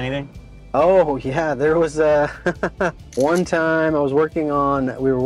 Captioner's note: laughs